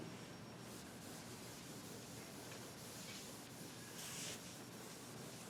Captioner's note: board eraser hissing